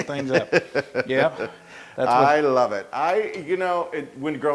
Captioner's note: laugh